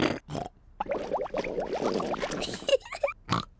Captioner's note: snorts; stomach gurgles; giggles